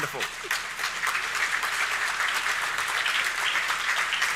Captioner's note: audience clapping